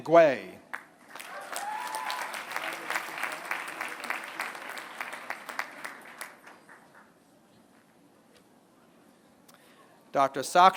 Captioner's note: applause